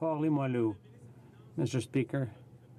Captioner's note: speaking French